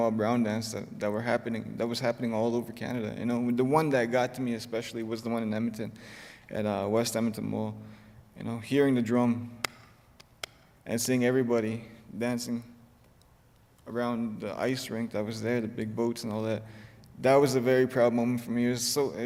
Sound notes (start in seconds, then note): 9.6 claps hands